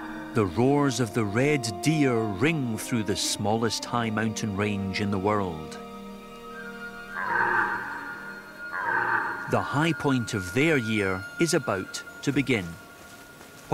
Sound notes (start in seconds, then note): 6.5 red deer calling